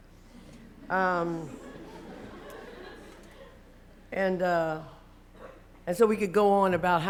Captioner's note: laughter